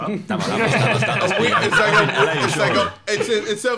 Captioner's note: laughing